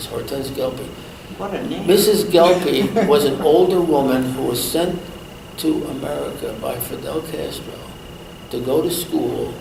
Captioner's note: laughs